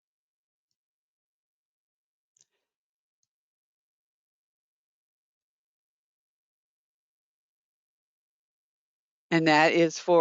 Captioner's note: 9 seconds pause